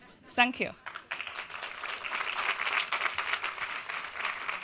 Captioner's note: audience applauds